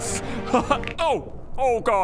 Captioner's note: crack